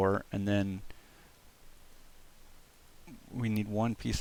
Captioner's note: awkward pause